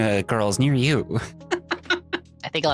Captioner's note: laughing